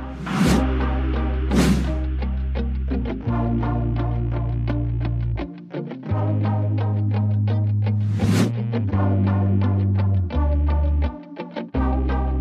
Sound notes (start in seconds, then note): 1.4 whooshing; 1.7 gentle upbeat music; 8.0 whooshing; 9.0 gentle upbeat music